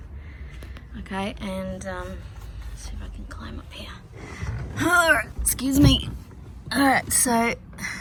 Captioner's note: grunts with effort